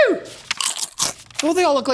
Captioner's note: crunching